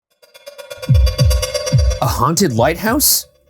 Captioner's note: ominous ambient music; heart thudding